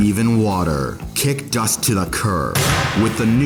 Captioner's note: impact